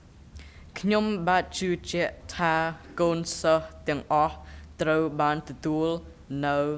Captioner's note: speaking in a foreign language